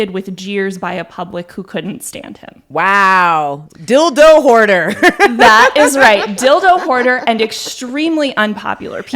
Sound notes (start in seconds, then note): 5.0 laughs